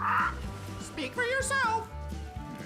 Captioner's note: squawks